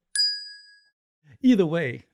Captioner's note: ding!